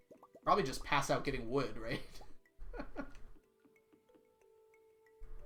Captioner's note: laughs